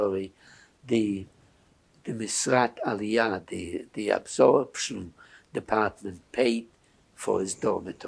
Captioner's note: hebrew